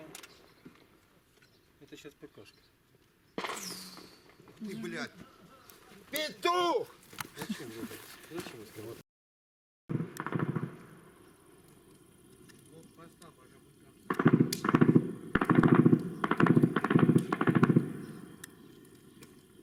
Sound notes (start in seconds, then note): 3.4 machine gun fire